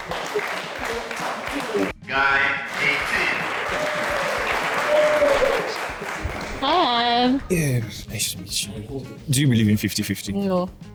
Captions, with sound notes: Guy 18. (clapping) Hi. Nice to meet you. Do you believe in 50-50? No.